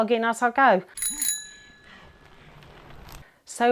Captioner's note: bell ringing